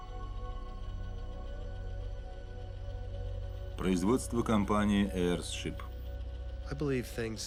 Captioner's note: engine idling